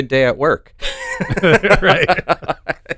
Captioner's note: both laughing